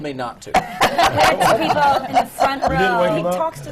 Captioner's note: laughter